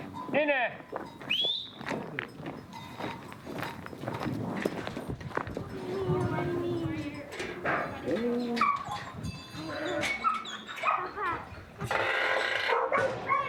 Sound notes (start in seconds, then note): 1.2 man calls out and whistles; 5.4 mingled voices chattering; 9.0 dogs barking